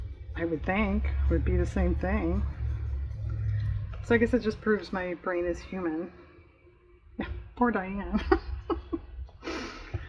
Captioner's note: laughs